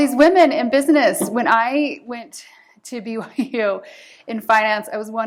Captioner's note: laughter